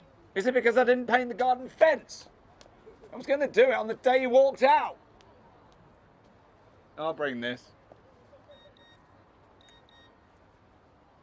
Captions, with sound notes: - Is it because I didn't paint the garden fence?! I was gonna do it on the day you walked out! I'll bring this. (beeping)